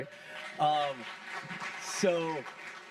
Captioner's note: audience applauding